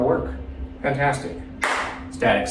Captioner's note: hands clap